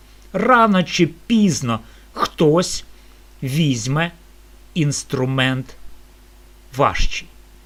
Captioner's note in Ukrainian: прочищення горла